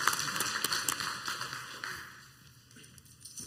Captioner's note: clapping